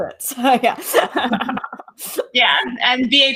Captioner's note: laughs